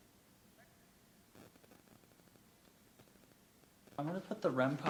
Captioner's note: static fizzles; distant voice yips faintly